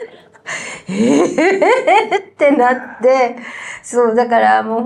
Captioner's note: laughs